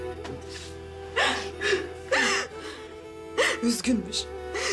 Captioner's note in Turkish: Ağlıyor